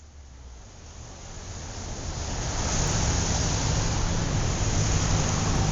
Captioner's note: city buzz